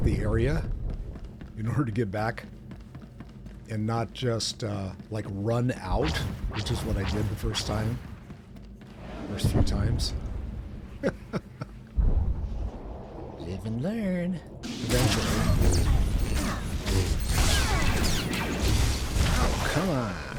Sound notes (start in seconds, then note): 11.0 laughs